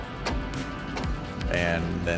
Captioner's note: classic rock music; track squeaking